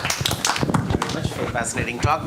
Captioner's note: audience applauding